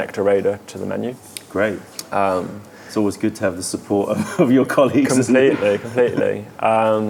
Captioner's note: laughter